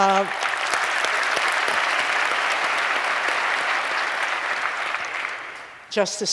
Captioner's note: applause